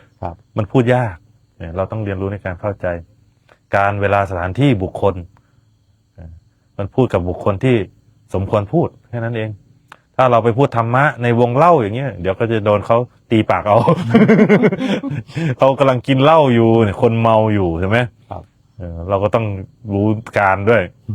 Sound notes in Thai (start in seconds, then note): 13.7 เสียงหัวเราะ